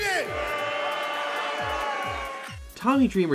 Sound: crowd boos

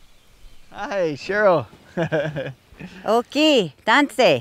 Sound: laughs

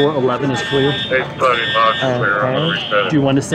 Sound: speaking over the radio

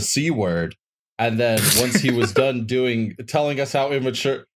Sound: snickers

